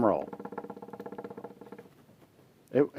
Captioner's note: fingers drumming on table